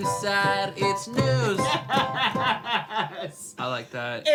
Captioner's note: laughs